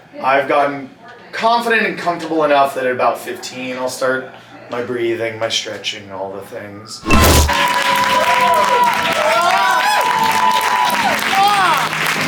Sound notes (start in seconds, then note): 7.5 cast applauds and cheers